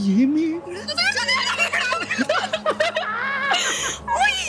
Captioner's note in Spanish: Exclamaciones